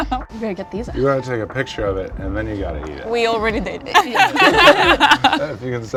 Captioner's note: laughs; laughs